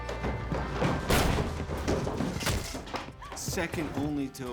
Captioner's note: gunshot